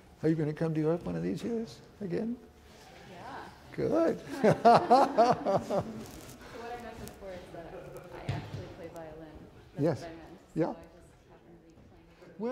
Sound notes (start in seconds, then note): 0.0 violist speaks faintly; 4.2 laughs